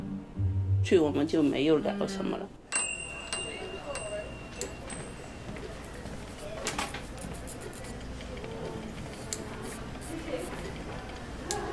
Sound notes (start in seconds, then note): 2.7 shop bell dinging; 6.7 shop chatter and din in background